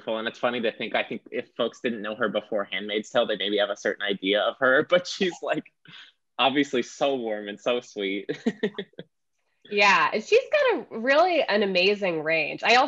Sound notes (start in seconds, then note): 8.3 chuckling